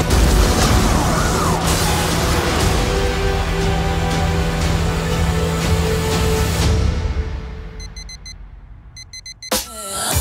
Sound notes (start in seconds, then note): 0.2 siren wailing; 9.0 alarm clock beeping